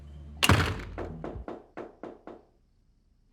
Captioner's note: knocking on door